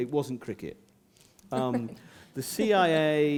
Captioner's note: laughter